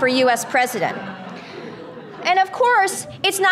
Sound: audience laughter

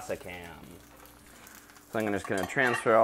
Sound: food sizzling

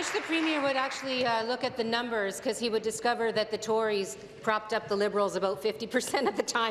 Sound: applause

